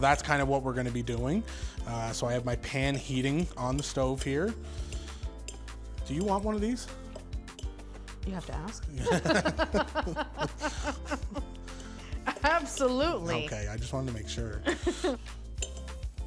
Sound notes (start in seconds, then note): 9.0 both laughing